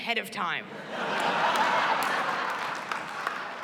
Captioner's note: laughter